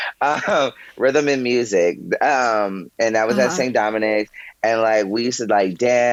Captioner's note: chuckles